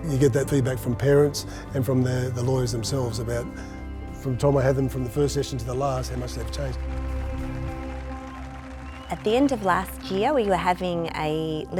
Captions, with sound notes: You get that feedback from parents and from the lawyers themselves about from the time I had them from the first session to the last, how much they've changed. (applause) - At the end of last year, we were having a